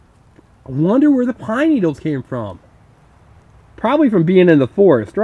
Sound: voiceover

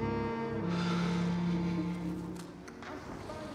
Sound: Kevin sighing

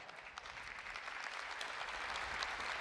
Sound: applause

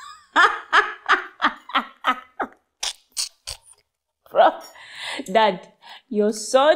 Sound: laughter

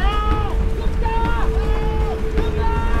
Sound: Alex screams in foreign language

